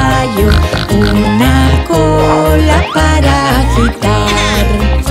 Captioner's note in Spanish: Sonido de chancho; Música alegre